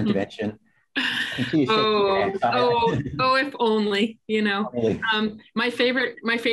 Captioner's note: laughter